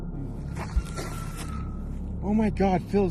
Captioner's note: screams in the distance